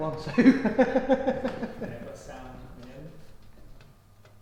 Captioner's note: laughing